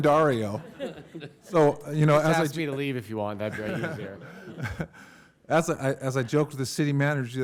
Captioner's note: laughter